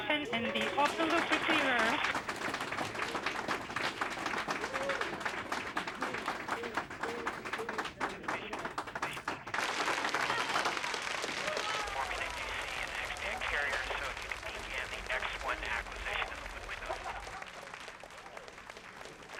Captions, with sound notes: in the auto loop receiver. (all clapping) (audience applauding)